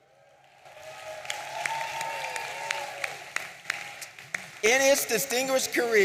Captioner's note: audience cheering and applauding